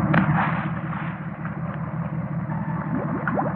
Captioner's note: splashing